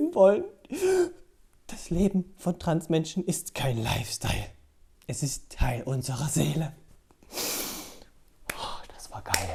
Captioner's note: sigh